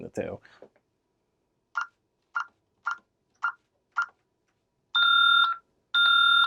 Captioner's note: beeping